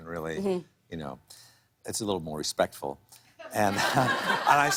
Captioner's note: laughter